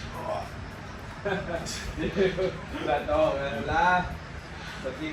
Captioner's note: coach laughing at me haha